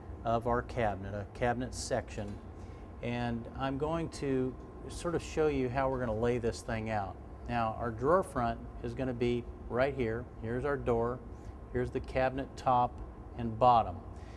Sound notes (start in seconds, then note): none